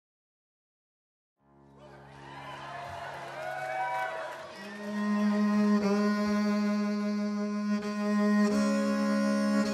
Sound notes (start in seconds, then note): 1.7 crowd cheering; 6.3 lilting violin music